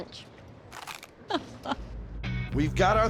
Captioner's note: crunch